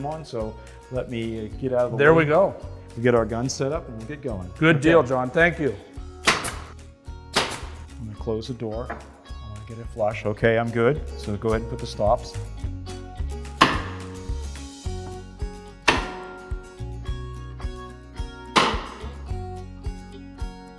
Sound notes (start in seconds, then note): 12.5 gentle music; 12.5 nail gun shooting nails